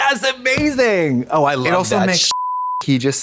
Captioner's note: beep